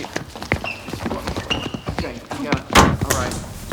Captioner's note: footsteps shuffling; shoes squeaking; door slamming